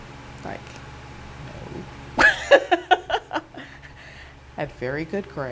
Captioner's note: chuckle